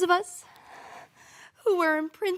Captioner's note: heavy breathing